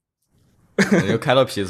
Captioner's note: laughs